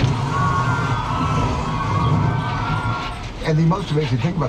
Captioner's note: tourists screaming